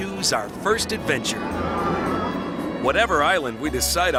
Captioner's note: riders screaming